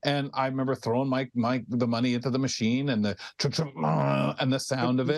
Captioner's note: groaning